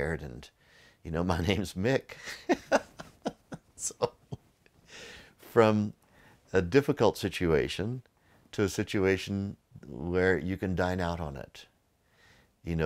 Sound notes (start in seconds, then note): 2.2 laughs